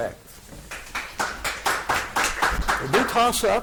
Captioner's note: audience applauding